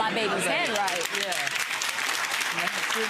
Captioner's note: clapping